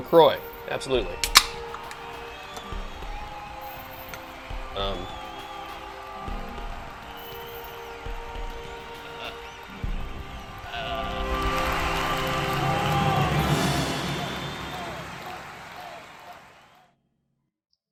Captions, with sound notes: Beer La Croix, absolutely. (crowd cheers) Um. (upbeat music)